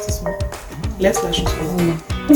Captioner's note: tinitius starts playing